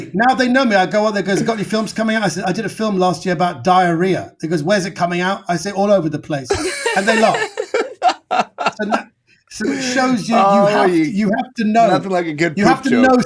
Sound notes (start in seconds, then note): 6.4 all laughing